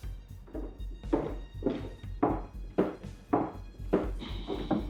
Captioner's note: footsteps